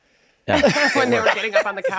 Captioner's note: laughing